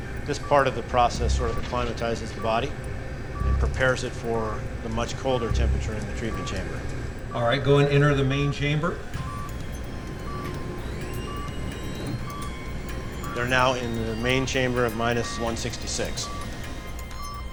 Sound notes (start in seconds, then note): 3.2 cryo chamber beeping; 9.3 machine beeping and whirring